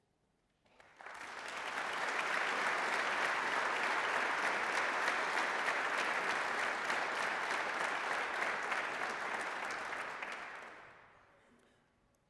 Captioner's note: applause